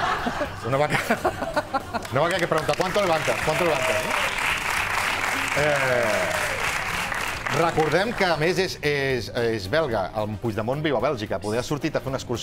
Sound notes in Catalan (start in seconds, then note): 3.9 aplaudiments